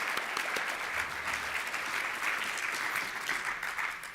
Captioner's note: applause